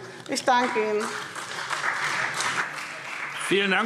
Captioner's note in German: Beifall